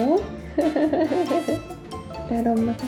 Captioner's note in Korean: 웃음